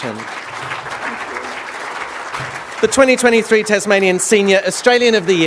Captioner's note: applause